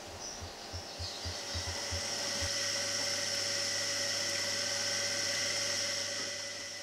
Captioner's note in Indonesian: Suara Pompa Air